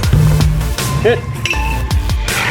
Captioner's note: sledgehammer hitting tire; axe hitting metal; water pouring